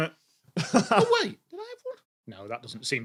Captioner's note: chuckles